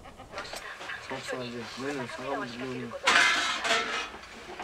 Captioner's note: chatter; clattering